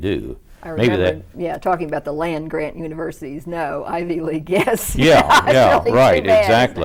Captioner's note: laughs